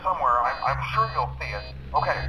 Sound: in game: alarm goes off

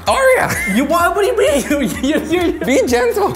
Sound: laughing

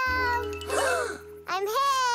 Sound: Olobobs gasp

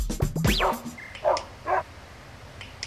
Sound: click click; dog barking

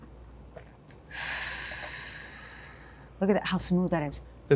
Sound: exhales

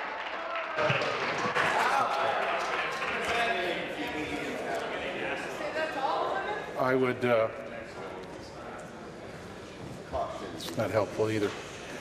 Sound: applause

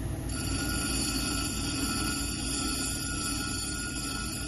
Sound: wheel grinding

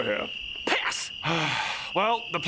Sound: sigh

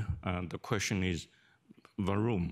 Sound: speaks in foreign language

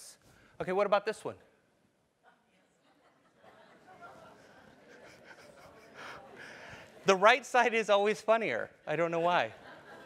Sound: laugh

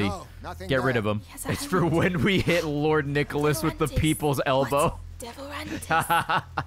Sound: laughs

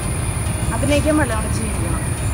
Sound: chatting

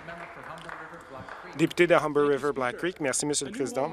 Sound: some Applause

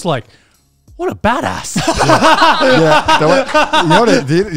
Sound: all laugh

